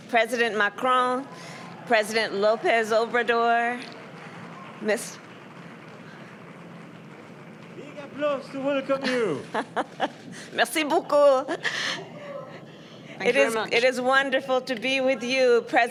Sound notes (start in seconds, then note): 5.7 applause; 8.8 laughs